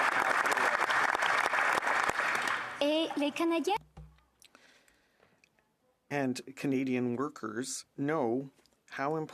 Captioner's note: applause